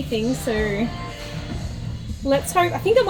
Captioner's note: radio playing in background